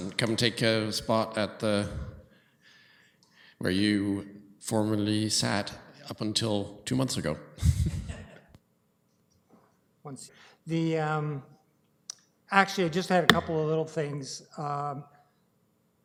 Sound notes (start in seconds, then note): 8.4 laughter